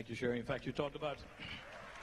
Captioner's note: applause